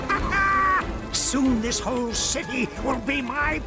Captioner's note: laughing